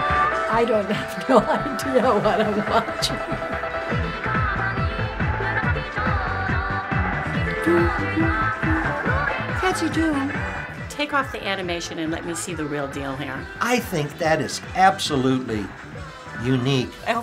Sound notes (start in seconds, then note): 3.3 singing upbeat song in Japanese; 7.7 hums along